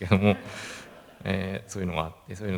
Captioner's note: laughs